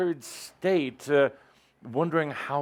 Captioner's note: none